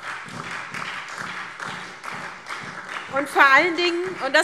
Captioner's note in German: Beifall SPD